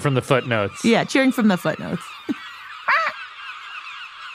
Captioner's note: squawk